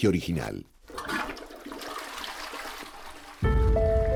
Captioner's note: urinal flushing; eerie music playing